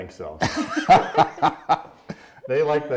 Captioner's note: laughing